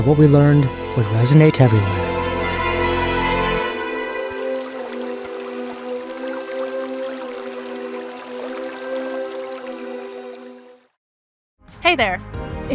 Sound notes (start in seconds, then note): 4.3 water flowing